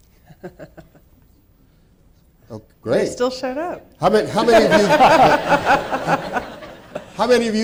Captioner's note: laughing